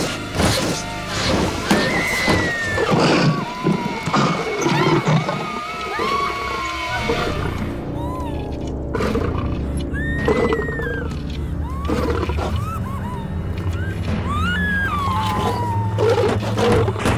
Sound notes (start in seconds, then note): 1.6 Screaming Continues; 9.9 Screaming; 13.2 Whimpering, Screaming